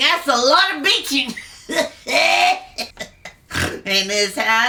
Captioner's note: laughs